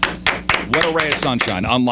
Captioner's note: clapping